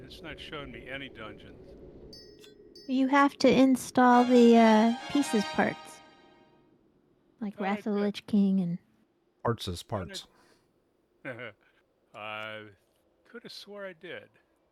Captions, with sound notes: It's not showing me any dungeons. You have to install the pieces parts, like Ratholich King and-- Arts as parts. [LAUGHTER] I could have swore I did.